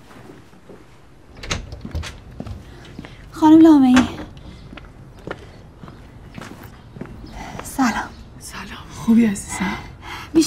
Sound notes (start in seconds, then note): 1.2 door opening